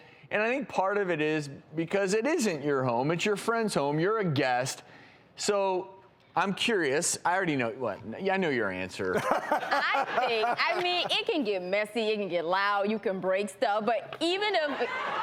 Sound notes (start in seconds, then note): 9.2 laughs